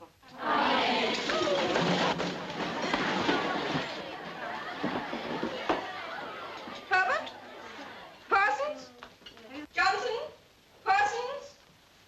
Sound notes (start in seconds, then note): 3.3 indistinct chattering